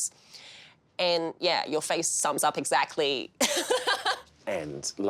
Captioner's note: laughs